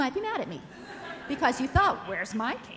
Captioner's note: audience laughs